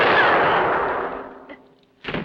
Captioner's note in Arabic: إطلاق نار